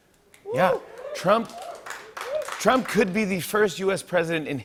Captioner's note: cheering and applause